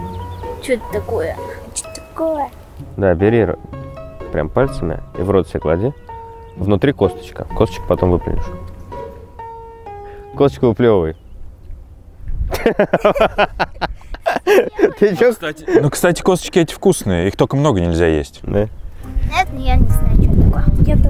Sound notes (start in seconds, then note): 12.5 laughing